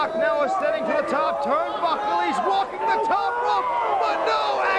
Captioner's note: crowd chatter